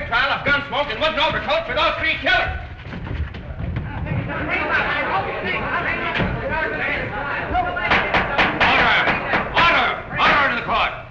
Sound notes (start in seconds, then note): 3.8 shouting; 7.8 gavel banging